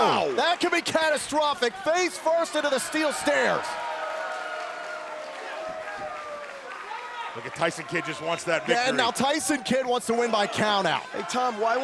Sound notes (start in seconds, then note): 3.7 crowd cheering